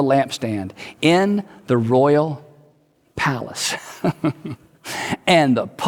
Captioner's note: chuckles